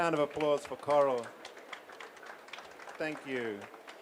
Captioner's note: applause